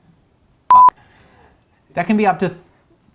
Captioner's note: beeping